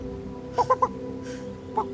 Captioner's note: clucks